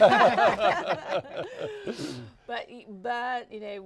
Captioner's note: all laughing